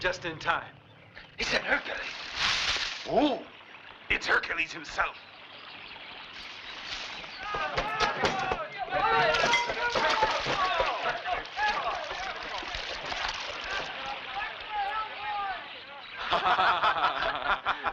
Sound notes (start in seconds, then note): 7.4 all screaming; 15.9 laughing